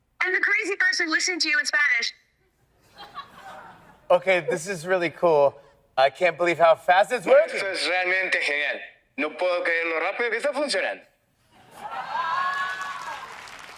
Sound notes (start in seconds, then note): 2.6 audience laughs; 7.7 foreign language; 12.4 audience claps